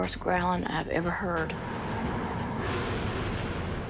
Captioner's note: growling